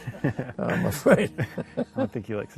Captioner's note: laughter